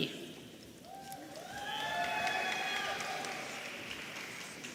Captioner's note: audience cheering